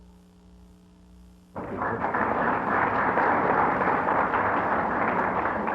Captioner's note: applause